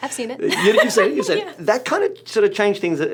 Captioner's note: laughs